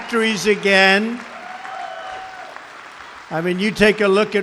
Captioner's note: applause